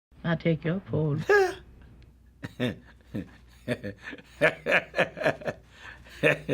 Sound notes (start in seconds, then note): 2.4 chuckles; 4.4 laughs